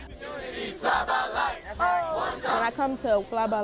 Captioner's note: shouting group